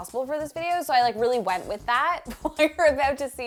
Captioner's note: laughing